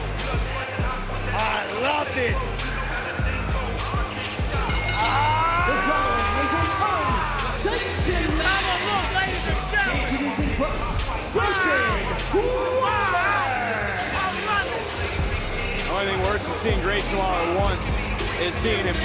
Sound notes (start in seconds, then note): 4.5 bell rings